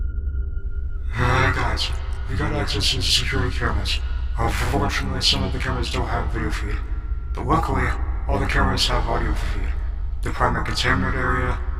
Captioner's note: intercom